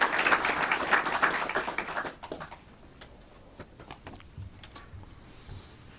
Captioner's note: clapping